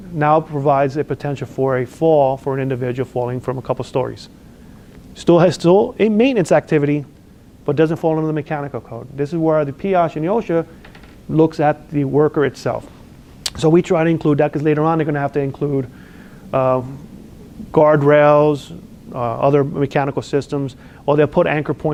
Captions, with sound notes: now provides the potential for a fall, for an individual falling from a couple of stories. Still has a maintenance activity, but doesn't fall under the mechanical code. This is where the PI looks at the worker itself. (lip smacks) So, we try to include that because later on, they're going to have to include guard rails, other mechanical systems, or they'll put anchor